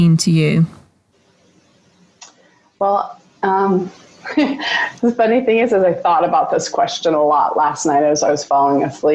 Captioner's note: laughs